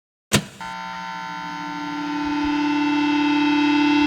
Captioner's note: electronics buzzing